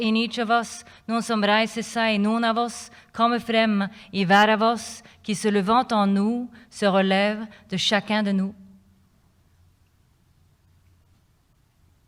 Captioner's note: non-english speech